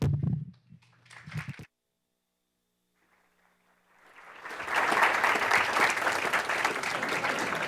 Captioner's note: applause